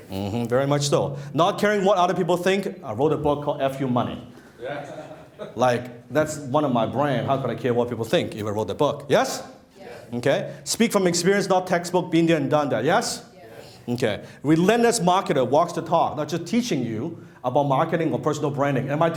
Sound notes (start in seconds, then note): 4.6 laughter